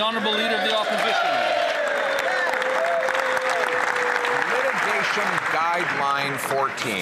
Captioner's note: some Applause